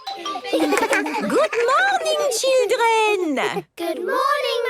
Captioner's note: laughter